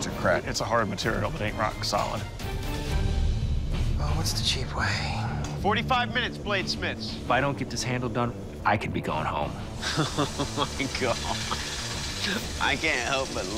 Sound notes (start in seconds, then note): 9.8 chuckles